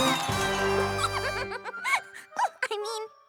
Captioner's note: giggles